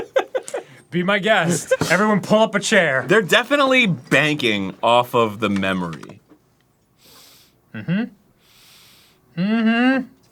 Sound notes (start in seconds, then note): 7.0 sniff; 7.0 comparative sniff